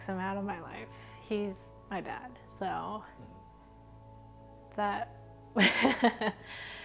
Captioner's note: laughs